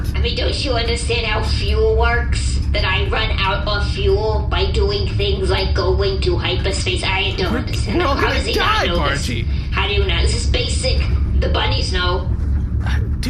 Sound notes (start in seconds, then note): 7.6 shouting